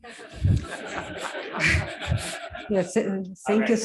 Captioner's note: laughter